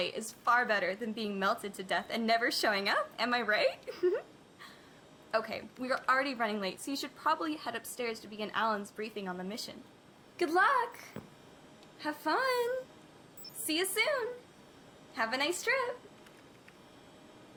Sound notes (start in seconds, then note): 3.8 giggles